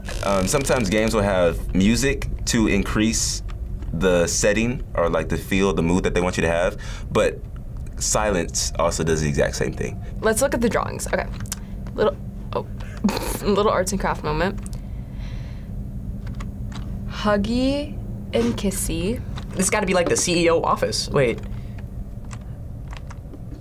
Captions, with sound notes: - Sometimes, games will have music to increase the setting or the feel, the mood that they want you to have. But silence also does the exact same thing. - Let's look at the drawings. Okay. Little-- oh. (snorts) Little arts and crafts moment. Huggy and kissy. - This has got to be like the CEO office. Wait.